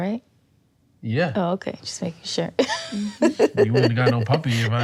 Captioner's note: laughs